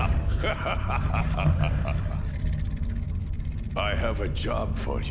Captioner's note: laughing; Romber roaring